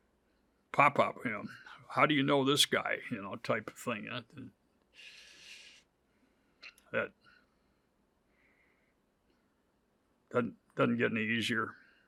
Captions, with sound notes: Pop up, you know, how do you know this guy, you know, type of thing that, (inhales sharply) Yeah, that doesn't get any easier.